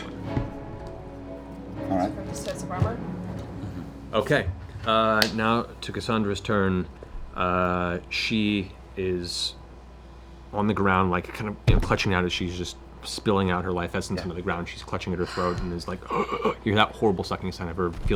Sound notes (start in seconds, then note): 15.2 gasping